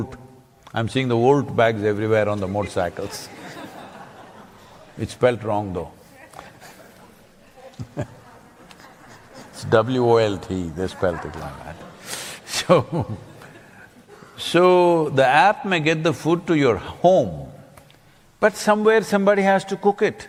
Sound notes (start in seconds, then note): 2.4 few laugh; 7.1 laughs